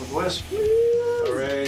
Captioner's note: clapping